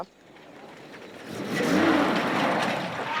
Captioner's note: engine revving